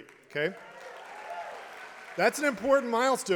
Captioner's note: applause